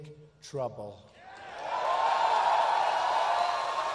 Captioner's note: applause